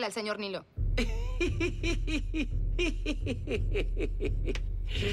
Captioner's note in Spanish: carcajadas